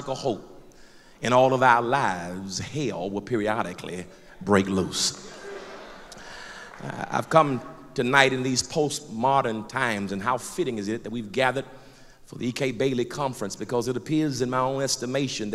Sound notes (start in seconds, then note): 5.1 crowd affirmation